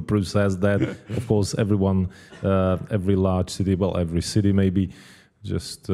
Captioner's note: laugh